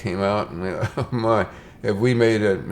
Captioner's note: chuckle